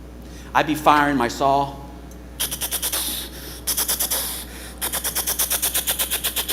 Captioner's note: imitates machine gun